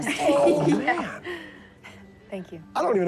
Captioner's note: laughs